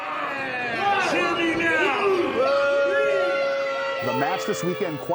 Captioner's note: crowd boos